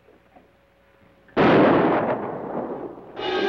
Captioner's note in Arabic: اطلاق نار; موسيقى أوركسترالية مشؤومة